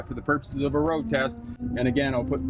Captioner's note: engine whirring